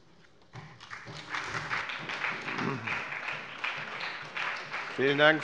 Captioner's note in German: Beifall bei der SPD